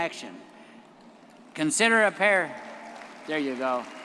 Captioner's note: audience applauding